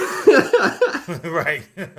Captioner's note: laughter